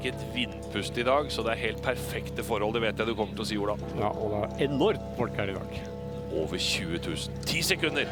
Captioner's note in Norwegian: Kirkeklokker slår